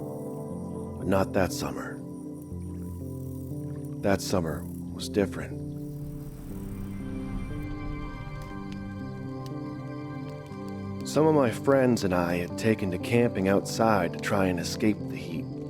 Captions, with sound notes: But not that summer. That summer was different... [Crackling campfire] Some of my friends and I had taken to camping outside to try and escape the heat.